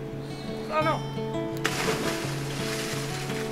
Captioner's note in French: plouf!